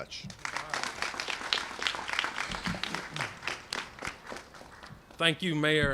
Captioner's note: applause